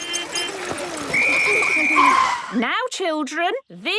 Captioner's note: whistle blowing